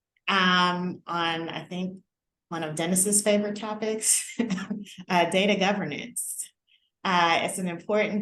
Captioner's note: laughter